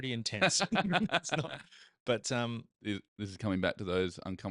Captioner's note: laughing